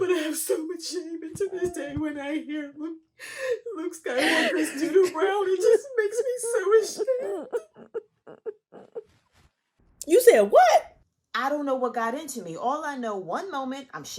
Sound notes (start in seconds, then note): 7.4 weeping